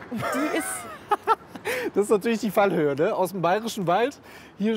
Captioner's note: laughing